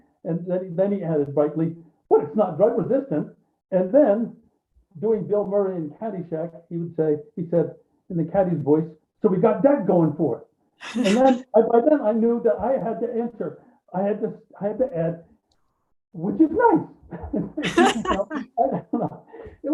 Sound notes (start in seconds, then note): 17.0 laughing